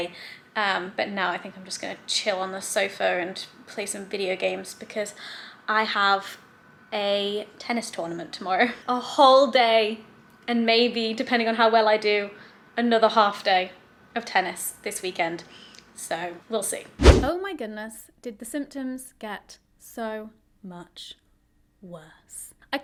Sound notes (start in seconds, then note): 17.0 whooshing sound